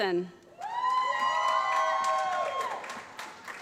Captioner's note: applause